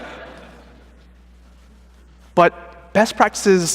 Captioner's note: laughter